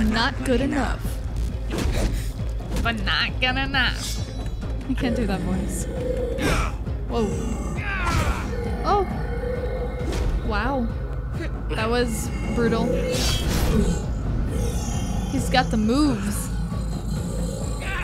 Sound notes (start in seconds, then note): 8.4 punch